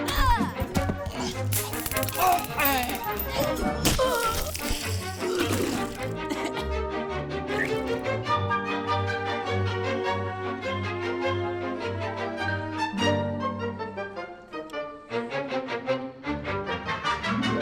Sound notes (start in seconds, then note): 0.2 severed arm thuds; 1.0 june grunts; 1.7 taser zapping; 1.7 zombie walter groaning; 3.7 flesh squishing; 4.9 zombie miss gudi gasps; 5.4 bucky retching; 5.4 vomit splashing